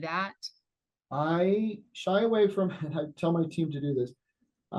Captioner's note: laughs